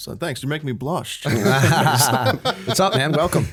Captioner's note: laughter